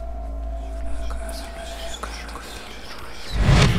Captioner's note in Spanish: Susurros